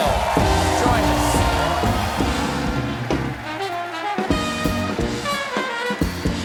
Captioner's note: applause